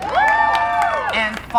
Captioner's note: crowd cheering